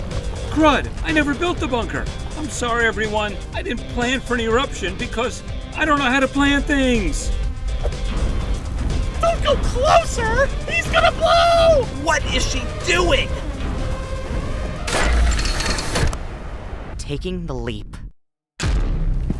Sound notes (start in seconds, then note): 13.4 booming running sounds; 14.8 mechanical retraction sound